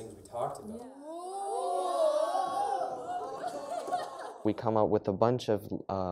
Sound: all laugh

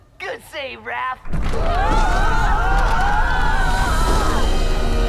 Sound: screaming

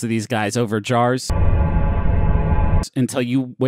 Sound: ominous noise

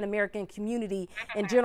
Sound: laughter

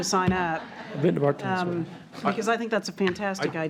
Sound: attendees laughing; trustees laughing

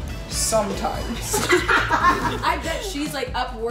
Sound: all laughing

